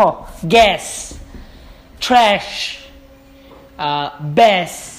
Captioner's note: rhymes